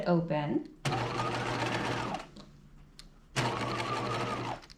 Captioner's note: sewing machine whirring